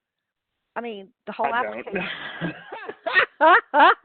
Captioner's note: laughs